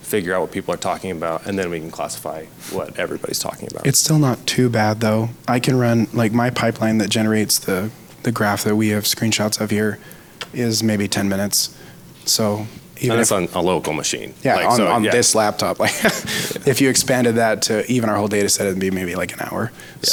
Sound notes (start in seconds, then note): 14.6 laughs